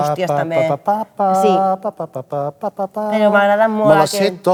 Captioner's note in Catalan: tarareando